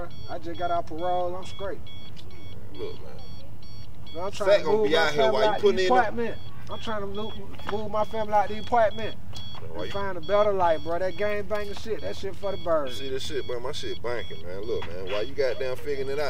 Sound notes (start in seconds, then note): none